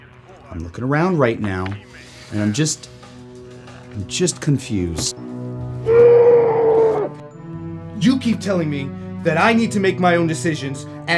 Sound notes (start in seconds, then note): 5.8 muffled screams